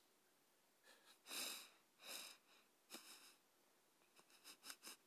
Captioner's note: soft whimpers